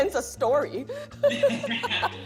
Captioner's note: both laugh